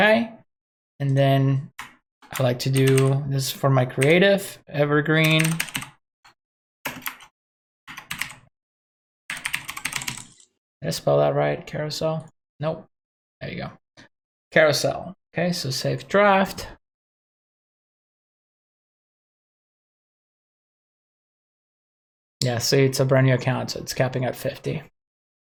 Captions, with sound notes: And then I like to do this for my creative, evergreen. (types keyboard) Did I spell that right Carousel? Nope, there you go, Carousel. Okay, so save draft. Yeah, so it's a brand new account, it's capping at 50,